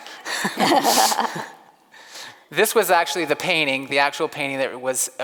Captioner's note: laughs